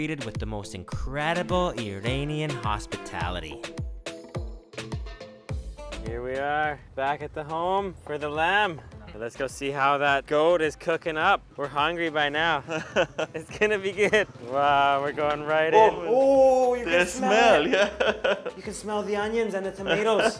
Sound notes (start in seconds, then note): 3.5 upbeat exotic music; 12.6 laughs